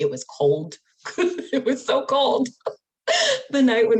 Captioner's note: laughs